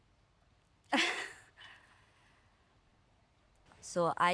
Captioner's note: chuckles